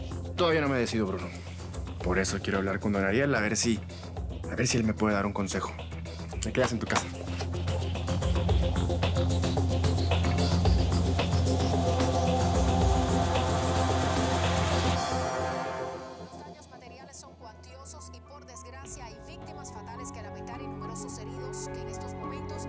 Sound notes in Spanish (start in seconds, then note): 16.5 Voz en la televisión